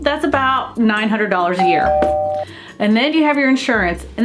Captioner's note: door bell rings